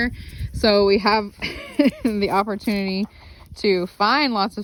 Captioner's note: laughs